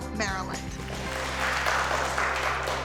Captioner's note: applause